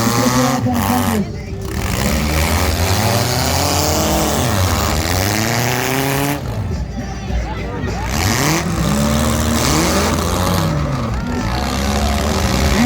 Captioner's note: engines rev